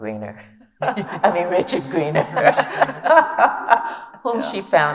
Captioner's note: laughs